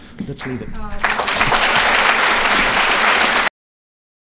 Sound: applause

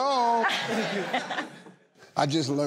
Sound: laughing

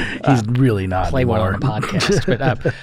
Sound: chuckle

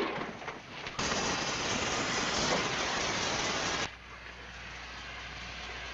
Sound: blowtorch crackling

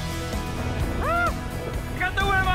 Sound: screams

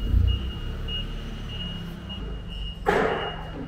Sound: forklift beeping

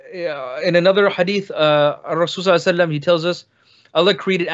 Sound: speaks in foreign language

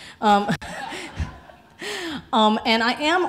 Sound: laughs

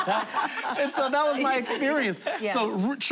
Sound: laughter

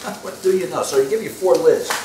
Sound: laughs

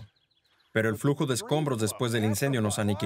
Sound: laughs

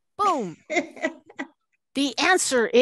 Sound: laughter

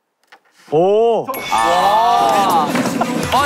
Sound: ding dong

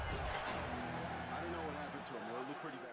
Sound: rhythmic beating and crunching; cheering

